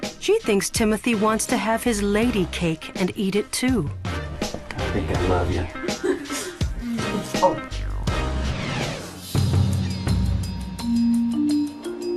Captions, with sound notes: She thinks Timothy wants to have his lady cake and eat it too. - I think I love you. (laughing) (upbeat music)